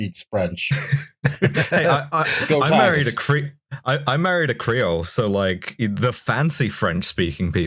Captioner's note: laughter